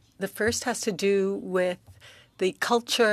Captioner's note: speaking French